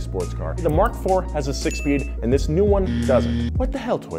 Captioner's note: buzzer